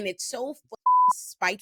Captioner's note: beep